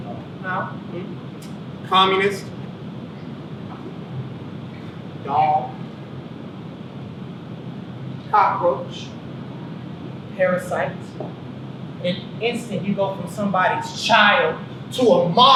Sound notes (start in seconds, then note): none